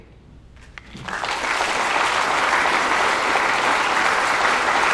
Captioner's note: applause